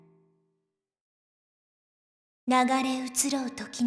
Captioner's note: silence